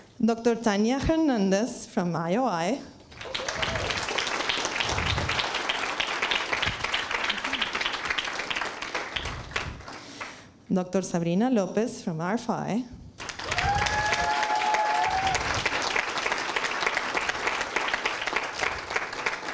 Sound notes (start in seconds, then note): 3.1 applause; 13.2 applause